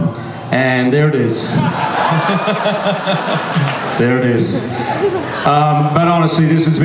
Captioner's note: audience laughs